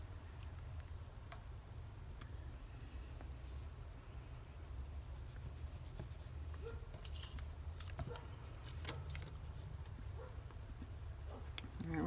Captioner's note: dog barks